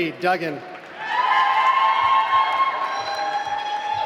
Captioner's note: applause